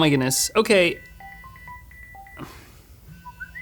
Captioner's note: phone rings; phone message tone rings